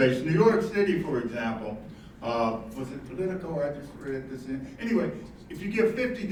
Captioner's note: faintly speaking